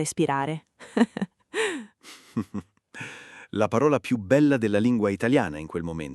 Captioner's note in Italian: Haha